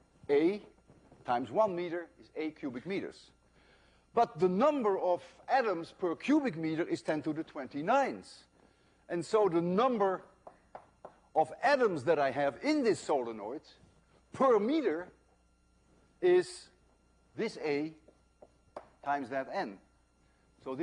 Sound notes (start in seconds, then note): none